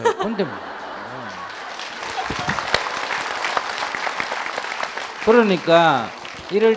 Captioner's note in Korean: 청중 박수